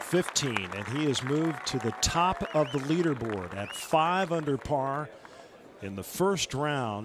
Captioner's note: applause